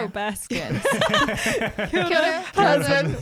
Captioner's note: laughing together